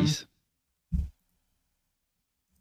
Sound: desk bonk

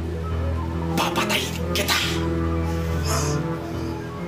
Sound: Carl grunts; sinister music playing

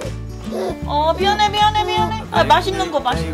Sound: crying

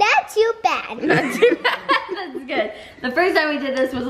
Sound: laughter

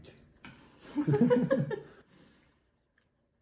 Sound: laughing

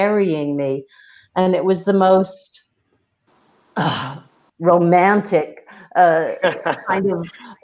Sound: laughs

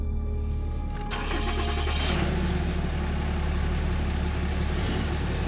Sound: motor starts

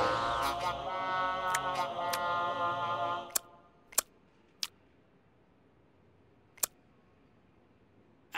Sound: tongue noises

